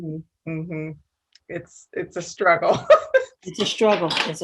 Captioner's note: laughs